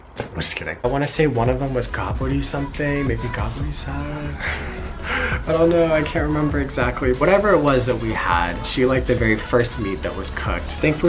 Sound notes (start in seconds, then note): 2.0 speaking in foreign language